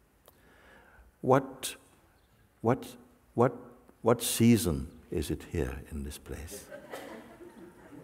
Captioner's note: laughter